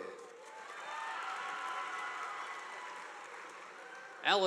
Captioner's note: audience applauding